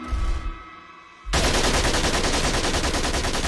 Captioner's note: loud gunfire